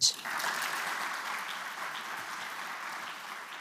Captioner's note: applause